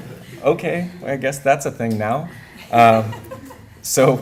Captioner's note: laughter